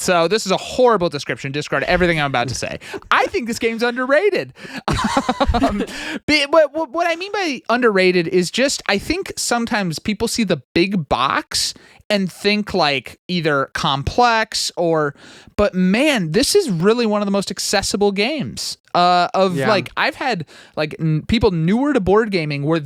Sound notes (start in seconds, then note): 4.9 laughing